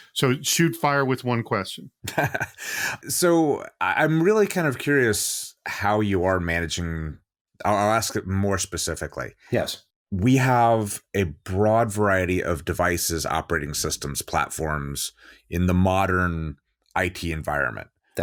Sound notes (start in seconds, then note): 2.0 laughs